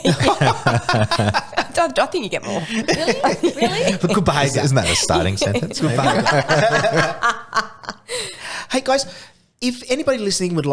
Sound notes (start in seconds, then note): 0.4 laughing; 6.6 laughing